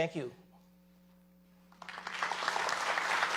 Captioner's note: applause